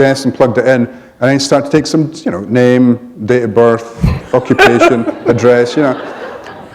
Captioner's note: chuckle